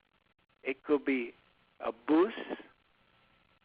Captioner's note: speaks in foreign language